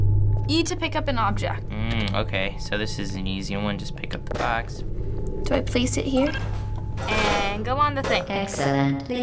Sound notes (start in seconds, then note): 6.1 button beeps